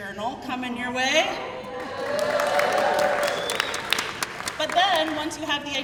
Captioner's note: crowd cheering